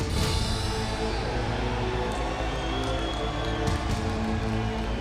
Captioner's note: crowd cheering